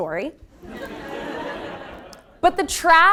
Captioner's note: laugh